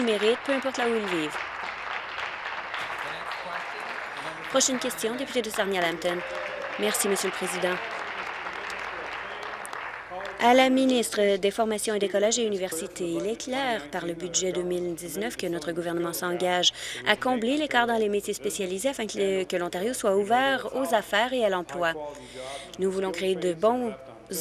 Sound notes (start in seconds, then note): 4.0 applause